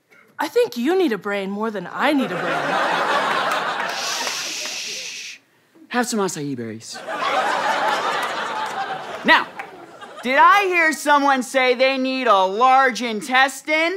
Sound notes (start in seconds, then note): 2.2 audience laughter; 7.0 audience laughter